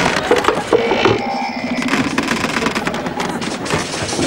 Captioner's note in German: Bett stöhnt, Federn springen